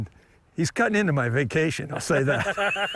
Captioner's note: laugh